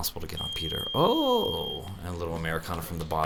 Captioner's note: beep